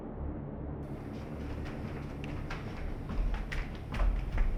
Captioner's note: thunder rumbling